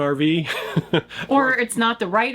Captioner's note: laughing